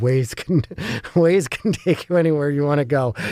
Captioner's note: laugh